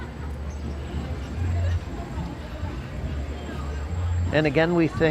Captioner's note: people chattering